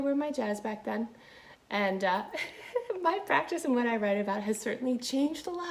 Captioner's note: laughing